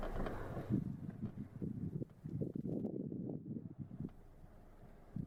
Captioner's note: wind blowing